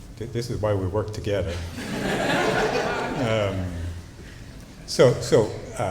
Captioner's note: laughter